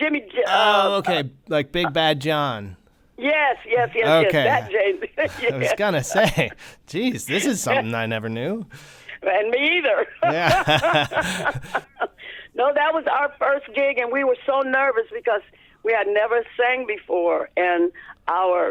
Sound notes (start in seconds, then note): 6.0 laughter; 10.0 laughter